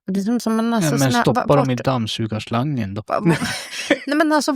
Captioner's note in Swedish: skratt